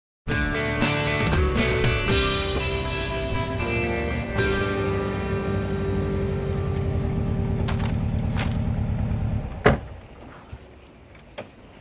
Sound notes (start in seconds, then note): 9.2 trunk Shuts